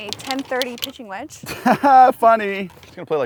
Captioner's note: laughs